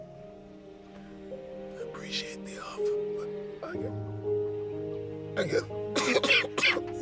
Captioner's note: coughing